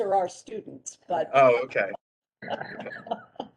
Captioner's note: laughter